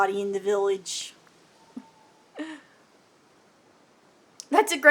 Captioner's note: laughs